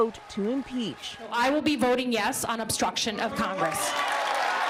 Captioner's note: boos and cheers